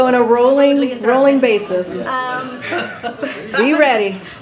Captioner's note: laughter